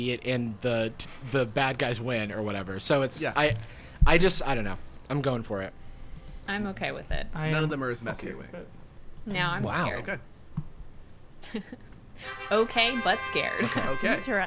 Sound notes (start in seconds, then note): 10.3 pat; 12.2 trumpets playing